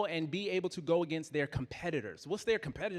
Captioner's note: none